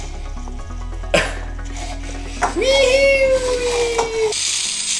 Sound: laughs

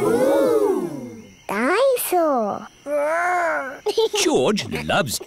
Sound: giggles

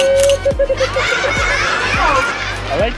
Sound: camera shutter sound effect; laughter sound effect

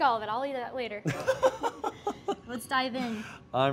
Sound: laughs

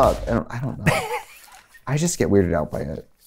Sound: laughs

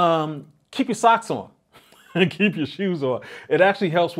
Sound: chuckles

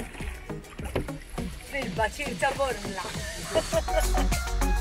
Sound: chuckles

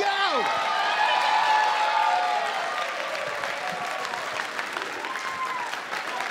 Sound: cheering and applause

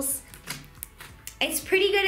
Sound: clicking

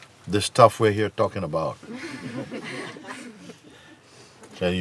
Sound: laughter

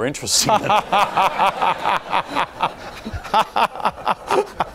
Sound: laughing

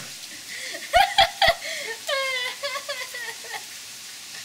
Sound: laughs

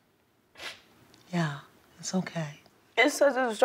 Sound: sniffles

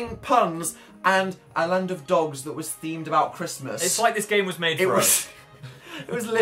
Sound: laughs

